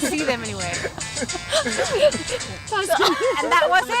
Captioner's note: laughter at the music